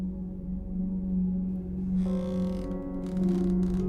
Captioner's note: creaking